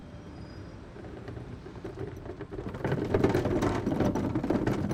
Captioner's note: garbage can rumbling